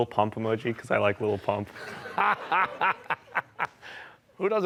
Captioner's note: laughter